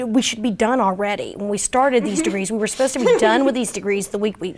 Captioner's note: all laugh